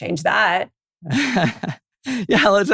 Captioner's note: laughter